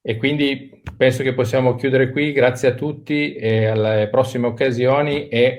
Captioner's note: speaking in foreign language